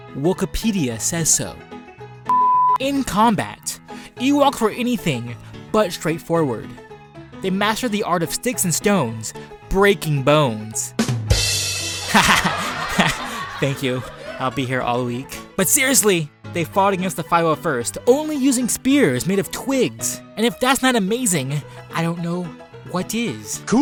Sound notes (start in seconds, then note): 11.1 drummer rimshot; 12.0 sitcom laughter